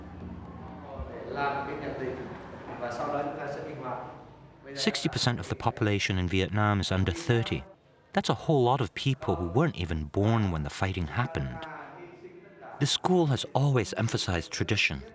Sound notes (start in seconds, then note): 1.1 speaking Vietnamese